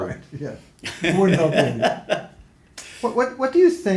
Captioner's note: laughs